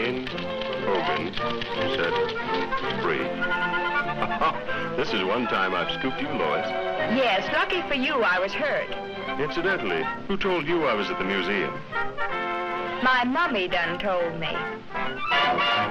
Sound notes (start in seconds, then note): 0.0 triumphant music; 4.0 chuckles